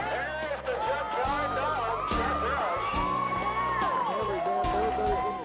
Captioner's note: crowd cheering